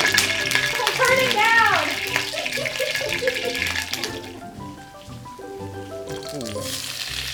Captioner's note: laughs